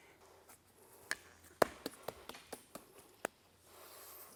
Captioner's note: tapping